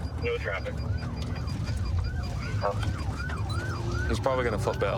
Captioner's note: sirens wailing